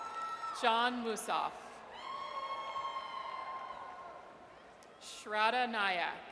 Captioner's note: audience cheers